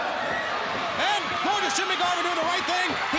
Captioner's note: crowd cheering